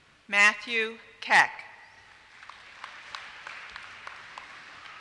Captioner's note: applause